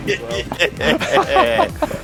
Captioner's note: laughing